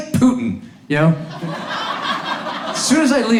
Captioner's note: audience laughs